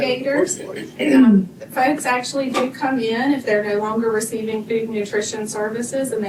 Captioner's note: clears throat